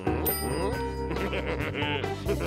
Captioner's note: chuckles wickedly